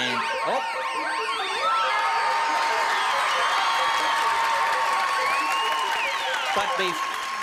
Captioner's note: applause and cheering